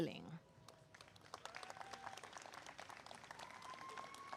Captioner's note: applause